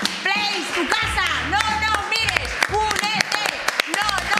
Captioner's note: shouting